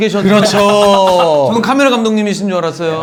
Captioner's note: laughing